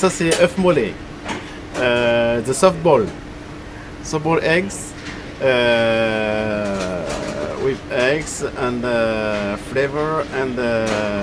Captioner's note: in French here